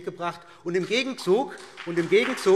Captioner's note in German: Beifall BÜNDNIS 90/DIE GRÜNEN und vereinzelt CDU